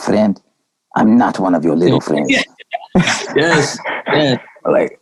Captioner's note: laughter